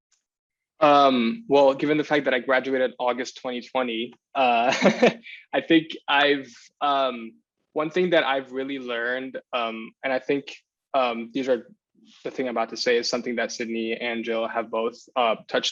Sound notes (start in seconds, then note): 4.4 chuckles